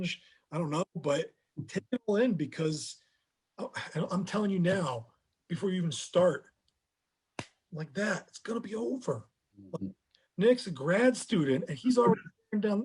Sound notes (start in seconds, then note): 7.3 snapping